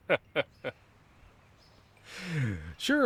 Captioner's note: laughter